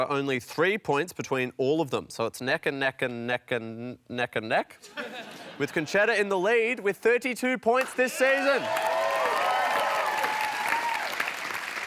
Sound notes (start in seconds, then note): 7.9 cheering and applause